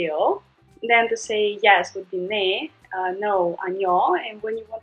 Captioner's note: speaking in Korean; speaking in Korean